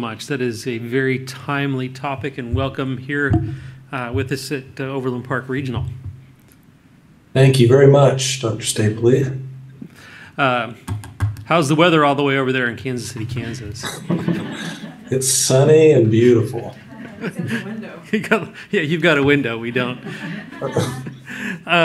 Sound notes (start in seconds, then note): 13.8 laughter; 16.8 laughter; 19.7 audience laughs